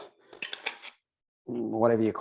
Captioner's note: lid clattering